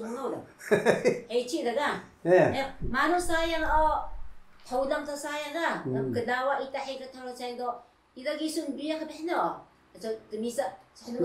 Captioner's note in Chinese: 笑声